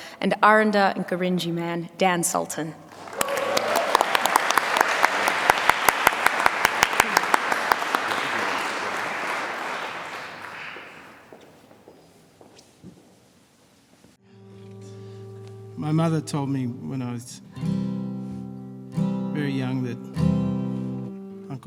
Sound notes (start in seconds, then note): 2.9 applause